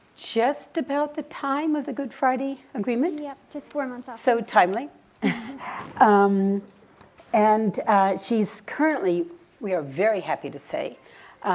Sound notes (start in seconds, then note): 5.7 laughing